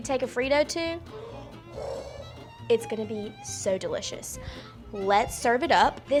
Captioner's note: gasps